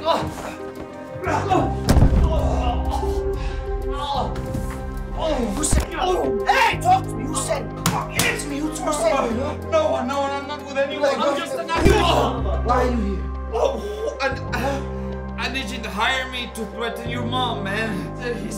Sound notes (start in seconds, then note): 1.8 body thuds; 3.6 Flavio groaning; 12.1 Flavio grunts; 12.1 foot thumps; 14.3 Flavio groaning